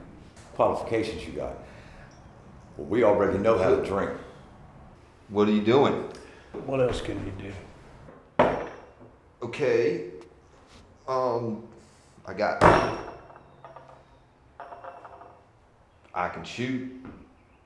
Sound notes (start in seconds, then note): none